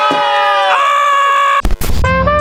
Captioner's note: continues screaming; jazzy tunes